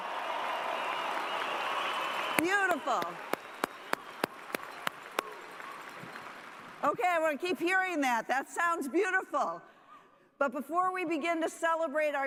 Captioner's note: cheers and applause